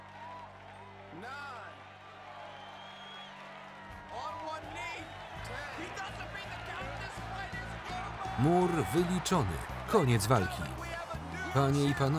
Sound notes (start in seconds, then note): 8.1 audience cheering